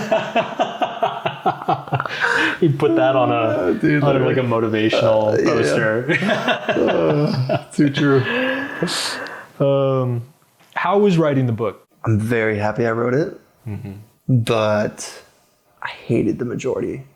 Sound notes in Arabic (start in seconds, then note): 0.1 يضحكون; 6.0 تضحك